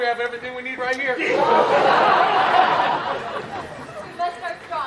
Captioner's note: laughing